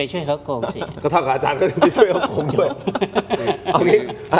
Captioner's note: laughs